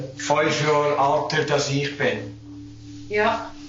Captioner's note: speaking Swiss German